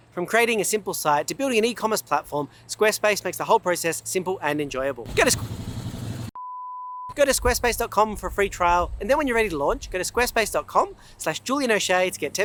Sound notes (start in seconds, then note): 5.4 motor humming; 6.3 beep resonating